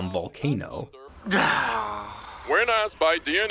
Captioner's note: groaning